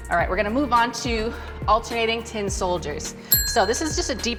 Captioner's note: bell rings